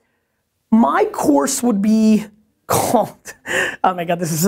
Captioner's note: laughs